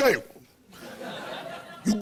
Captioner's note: laughter